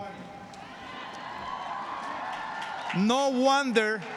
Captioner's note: applause